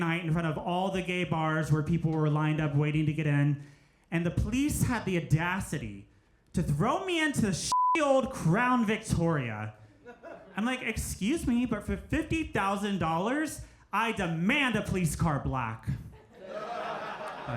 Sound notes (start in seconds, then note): 7.7 beep; 16.1 crowd laughs